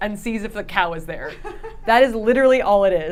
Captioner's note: laughing